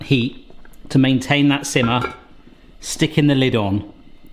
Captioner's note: lid clanks